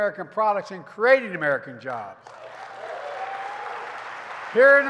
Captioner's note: applause